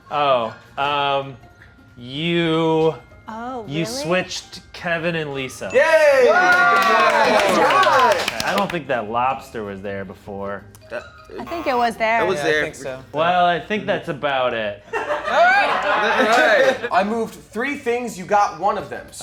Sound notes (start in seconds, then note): 14.9 producer laughing